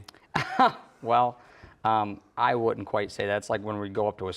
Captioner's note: laughs